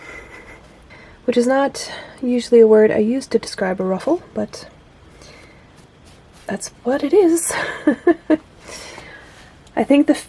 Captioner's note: laughs